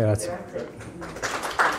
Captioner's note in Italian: Applauso